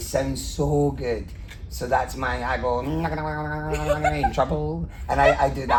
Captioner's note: funny sounds; laughing